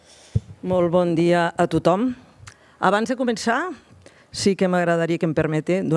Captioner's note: speaks in foreign language